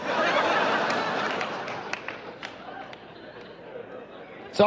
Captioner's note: audience laughs